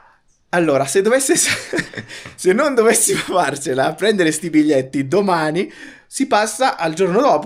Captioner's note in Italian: risate